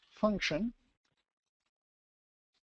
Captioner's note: pause